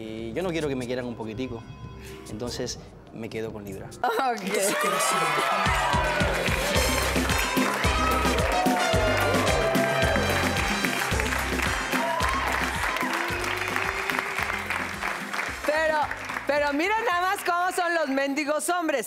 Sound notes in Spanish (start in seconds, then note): 7.3 Gritos y exclamaciones